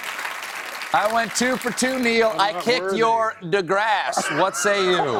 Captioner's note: applause